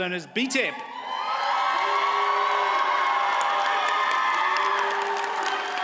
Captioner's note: audience cheers and applauds